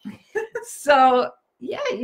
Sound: laughing

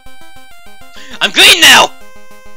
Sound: gasp

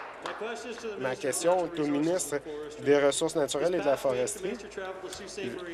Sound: applause

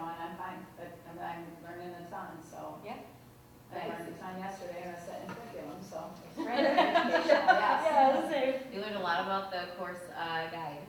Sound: laughter

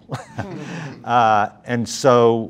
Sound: chuckling

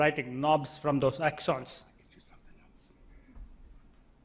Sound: whispers

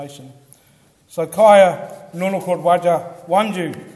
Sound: speaks foreign language

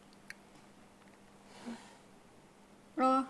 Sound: sighs

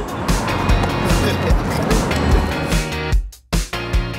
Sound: laughter

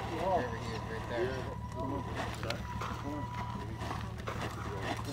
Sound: background chatter

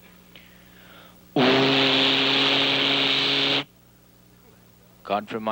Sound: imitates engine

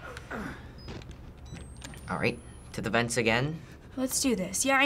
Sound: grunts; camera powers up

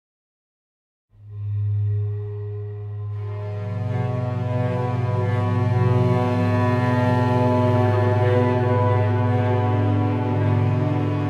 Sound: sound of sea beach sad mood

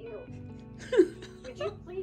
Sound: giggle

